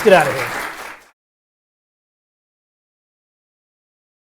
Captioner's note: applause